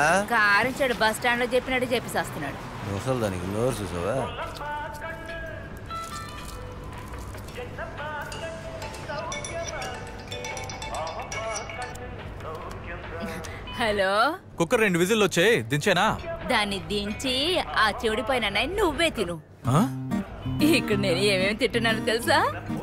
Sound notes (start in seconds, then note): 8.8 phone rings